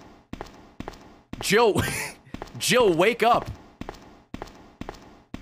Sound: laughs

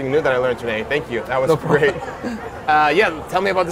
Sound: chuckles

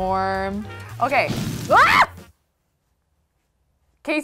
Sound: screams

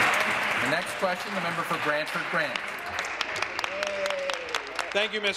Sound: applause

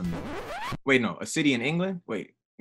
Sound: record scratch

